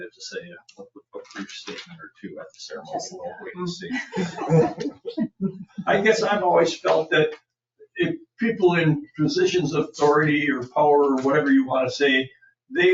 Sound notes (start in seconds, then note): 3.5 people chattering